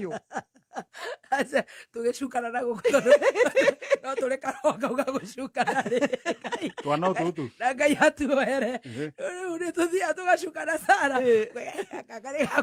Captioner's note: laughter; laughter